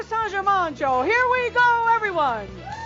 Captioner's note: audience cheers and applause